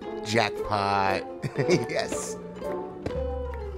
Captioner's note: laughs